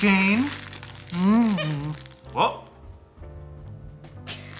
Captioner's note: toy squeaks